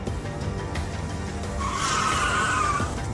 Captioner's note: tires screeching